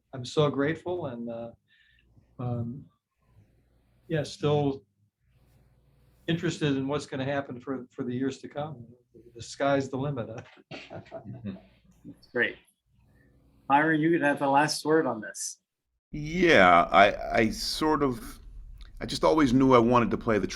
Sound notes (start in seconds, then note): 10.4 chuckles